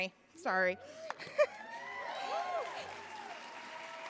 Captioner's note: cheering and applause